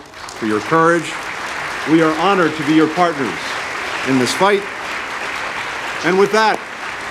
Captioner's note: applause